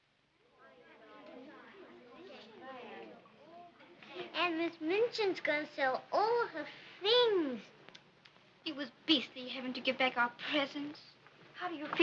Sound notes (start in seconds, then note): 0.8 girls murmuring; 8.0 tisking